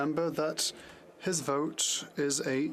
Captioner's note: speaking French